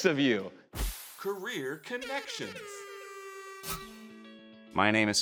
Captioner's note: air horn blares